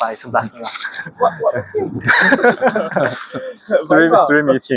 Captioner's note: laughs; laughs